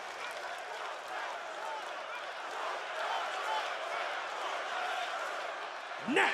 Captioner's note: audience applauds and cheers